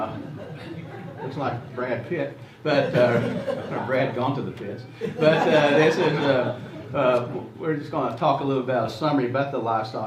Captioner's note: laughs